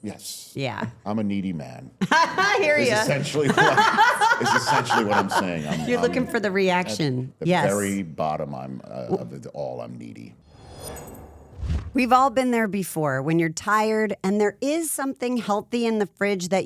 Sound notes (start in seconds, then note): 2.0 laughs